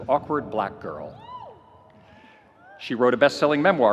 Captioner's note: audience cheering